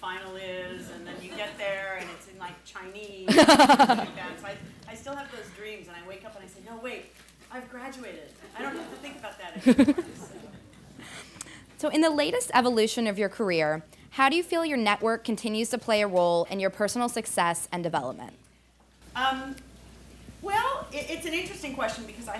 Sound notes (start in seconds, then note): 3.3 laughing; 11.7 laughing